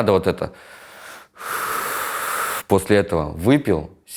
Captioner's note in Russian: шумно выдыхает